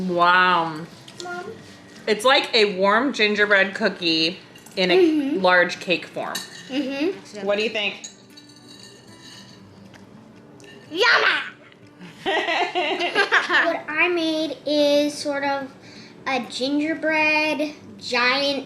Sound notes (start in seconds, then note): 12.0 laughing